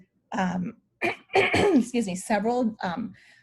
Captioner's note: clears throat